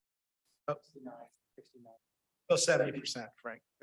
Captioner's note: speaks faintly